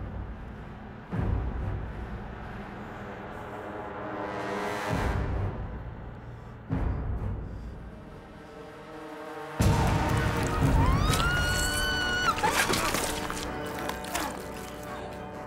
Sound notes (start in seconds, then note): 9.1 dramatic music; 10.4 Kira screams; 10.8 guts squishing